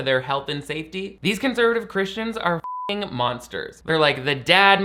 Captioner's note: beep